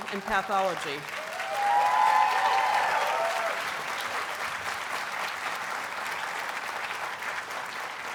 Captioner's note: audience applauds and cheers